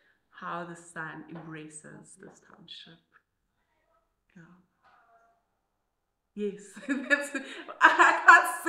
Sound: laughs

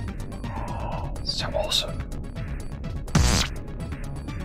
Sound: gasp

